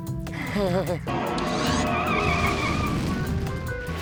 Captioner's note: nervous chuckle; screeching noise